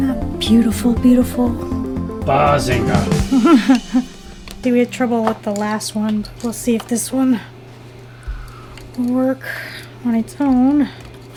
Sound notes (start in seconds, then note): 3.4 chuckles